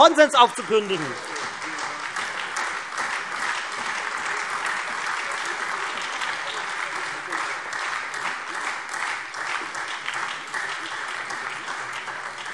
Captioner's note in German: Beifall Freie Demokraten, SPD und AfD